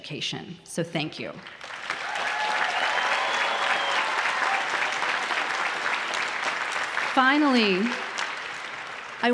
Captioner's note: applause